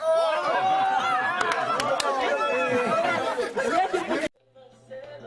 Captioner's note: laughter, groaning